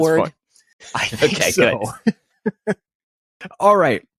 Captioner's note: laughs